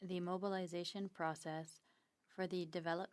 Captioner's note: speaking French